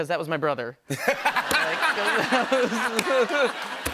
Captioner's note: laughter